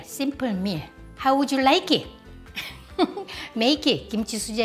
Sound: laughs

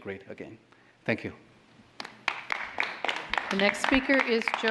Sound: applause

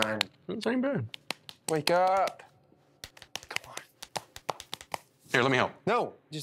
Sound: face hitting

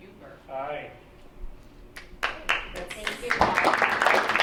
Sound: clapping

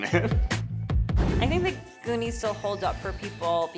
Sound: chuckles; air whooshes

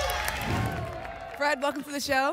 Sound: applause and cheering; whoosh

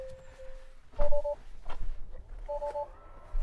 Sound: car beeping

